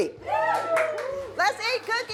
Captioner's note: all cheering